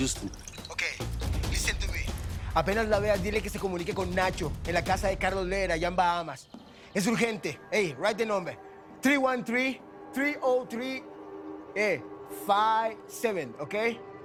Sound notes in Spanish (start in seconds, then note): none